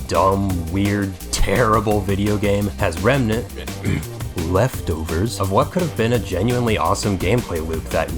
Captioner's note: ahem